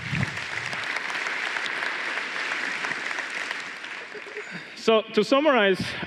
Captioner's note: applause